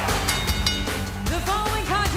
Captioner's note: bell dinging